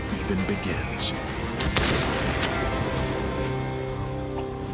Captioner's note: gunshot